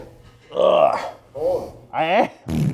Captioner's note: groans; loud flatulence